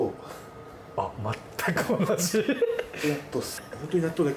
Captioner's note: laughs